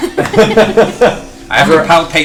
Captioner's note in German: Gelächter